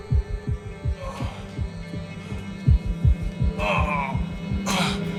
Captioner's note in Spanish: Quejidos